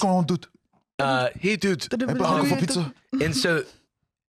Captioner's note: all doing overlapping xQc impressions